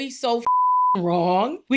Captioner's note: beep